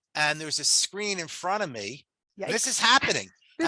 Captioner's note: laughs